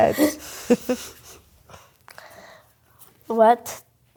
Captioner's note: laughing